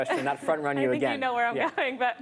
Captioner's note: laughter